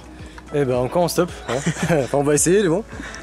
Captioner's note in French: rires